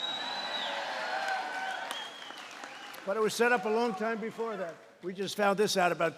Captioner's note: applause